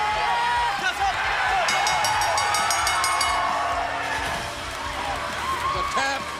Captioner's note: bell ringing